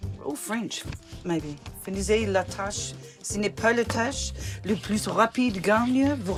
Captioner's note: none